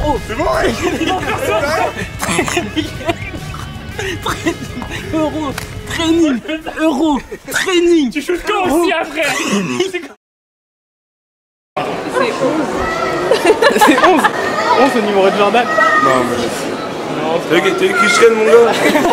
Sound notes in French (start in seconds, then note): 8.0 rigole; 13.3 elle rigole; 18.4 rigolent